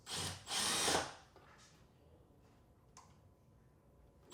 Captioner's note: drill drilling